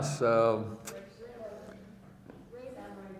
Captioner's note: female speaking off microphone